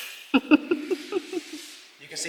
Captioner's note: giggling